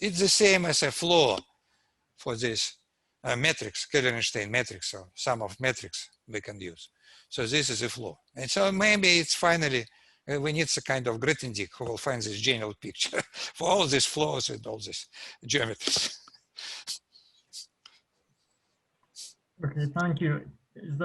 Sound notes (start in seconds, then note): 13.1 laughs